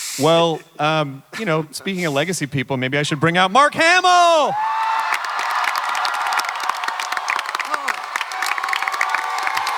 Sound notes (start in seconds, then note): 4.3 audience cheering and clapping